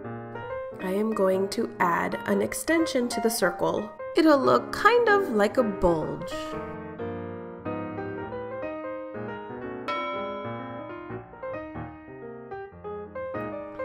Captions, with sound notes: I am going to add an extension to the circle. It'll look kind of like a bulge. [Ding]